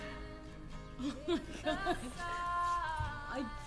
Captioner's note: ridacchiando